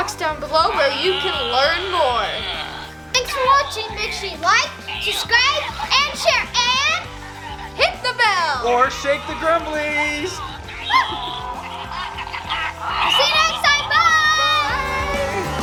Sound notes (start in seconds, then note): 10.9 toys chatter